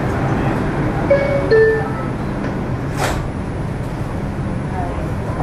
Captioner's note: doors chime and click